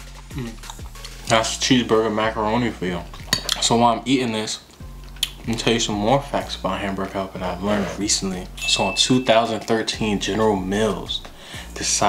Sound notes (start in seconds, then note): 0.3 chewing